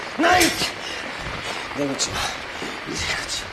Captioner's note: pants heavily; static builds louder; pants heavily